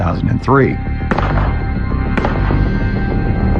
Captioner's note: gununshotots